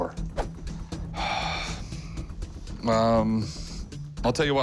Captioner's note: sighs